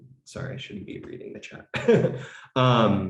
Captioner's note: laughs